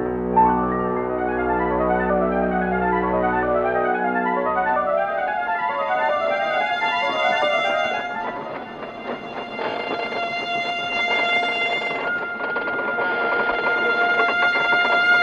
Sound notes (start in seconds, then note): 8.0 windmill rattling